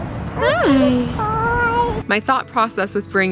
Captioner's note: baby mumbling